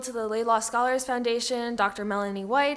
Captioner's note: none